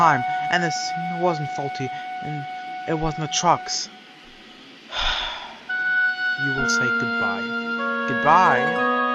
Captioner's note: sigh